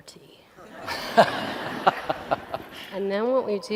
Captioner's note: laughter